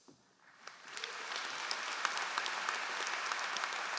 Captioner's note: all applauding